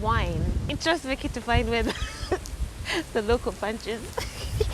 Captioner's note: giggling